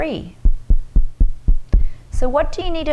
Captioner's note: fingers tapping